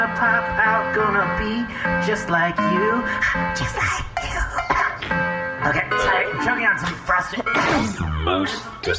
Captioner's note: hacking